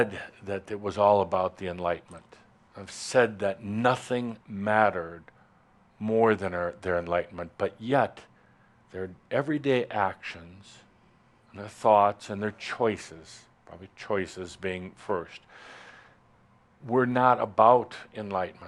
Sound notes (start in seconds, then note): none